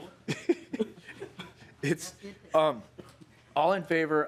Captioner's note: laughing